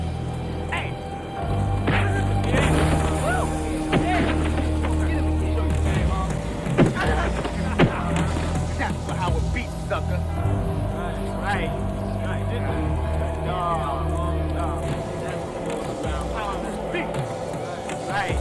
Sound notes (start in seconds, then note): 2.0 fist thuds; 5.9 foot thuds